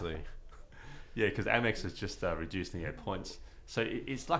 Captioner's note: laughs